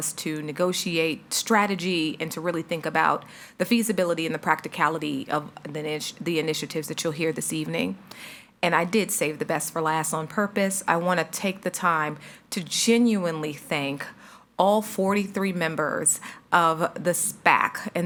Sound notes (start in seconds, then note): none